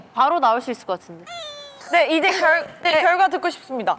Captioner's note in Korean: 울어